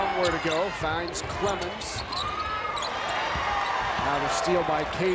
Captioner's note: crowd cheers